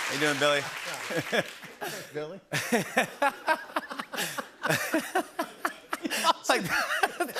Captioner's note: laughter